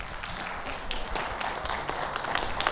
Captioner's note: audience applauding